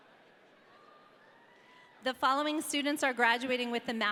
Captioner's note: audience cheering